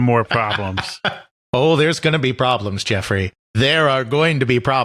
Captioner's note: laughs